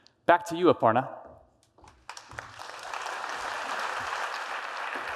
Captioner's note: applause